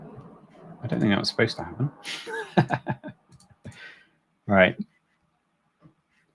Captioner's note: laughs